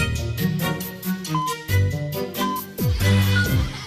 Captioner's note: electronic beeping